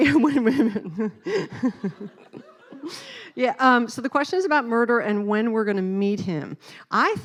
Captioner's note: laughing